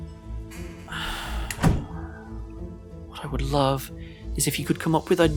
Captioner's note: sighs